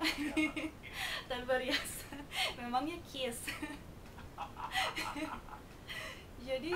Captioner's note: laughing